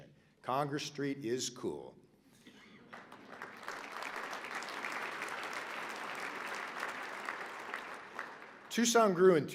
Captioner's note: applause